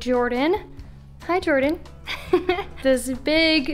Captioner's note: chuckles